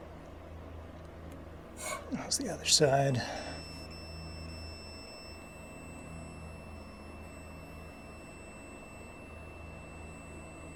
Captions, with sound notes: How's the other side? [beeping starts]